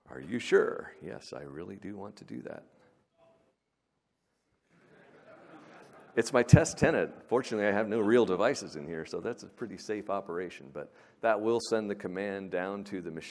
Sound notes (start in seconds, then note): 6.9 laughter